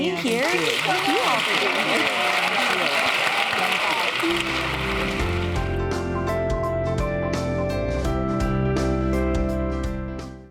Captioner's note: applause